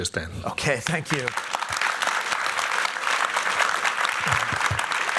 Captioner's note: applause